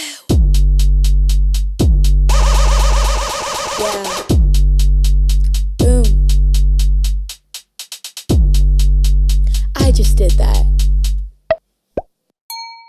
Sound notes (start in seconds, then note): 0.2 slow beat; 2.4 record scratching; 6.7 slow beat; 11.6 popping; 12.5 bell chiming